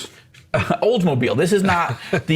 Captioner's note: men chuckle